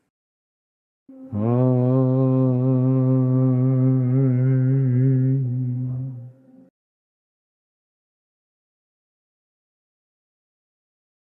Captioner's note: chanting